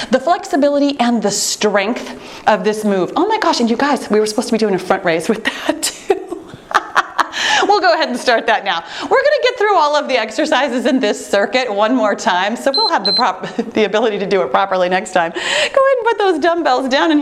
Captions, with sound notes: the flexibility and the strength of this move. Oh my gosh, you guys we were supposed to be doing a front raise with that. (laughing) We'll go ahead and start that now. We're gonna get through all of the exercises in this circuit one more time. So we'll have the prop- (timer beeping) the ability to do it properly next time. Go ahead and put those dumbbells down,